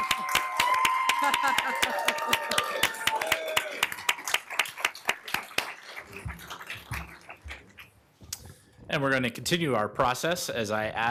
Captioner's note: applause